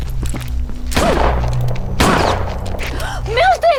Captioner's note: gunshots